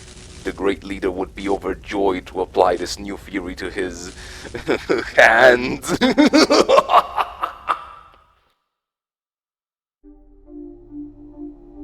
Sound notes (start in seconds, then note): 5.6 chuckles; 5.7 maniacal Laughter